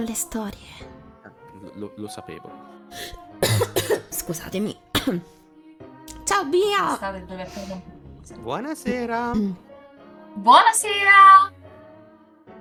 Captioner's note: coughs